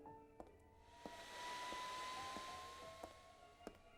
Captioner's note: machine whirring